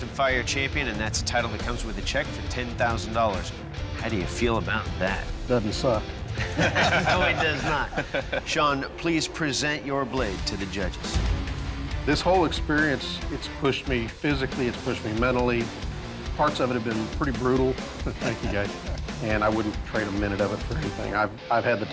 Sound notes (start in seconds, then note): 6.3 laughter